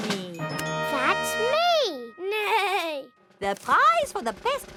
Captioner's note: neighs